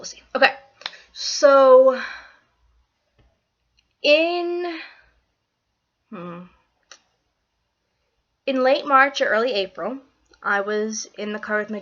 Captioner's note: sigh